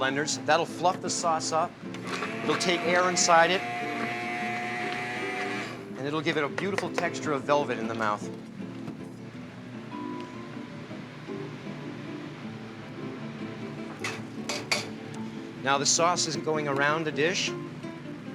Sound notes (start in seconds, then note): 14.5 clang